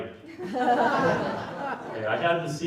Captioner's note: laughter